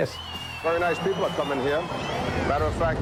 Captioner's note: crowd cheers